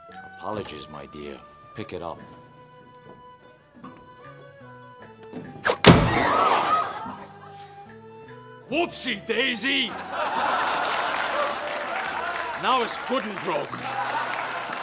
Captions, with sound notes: ApoIogies, my dear. Pick it up. (CROWD GASPING) Whoopsie-daisy! (ALL LAUGHING) Now it's good and broke!